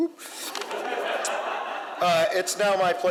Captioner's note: audience laughs